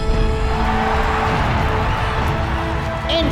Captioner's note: cheering